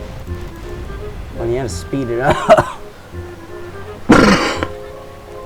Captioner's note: coughing